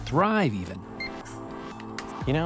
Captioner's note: computer beeps